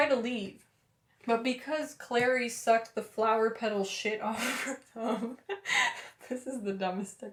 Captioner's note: laughter